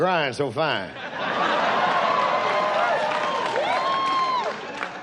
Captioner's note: audience cheers